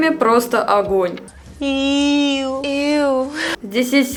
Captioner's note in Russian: Иууу! -Иууу!